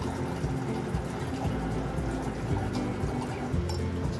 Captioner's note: sound of water purifier